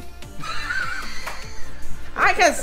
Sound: laughs

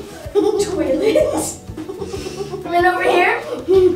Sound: laughter

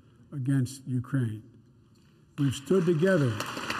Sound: applause

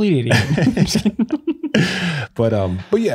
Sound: both laughing

